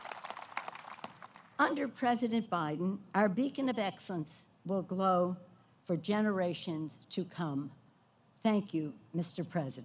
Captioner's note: applause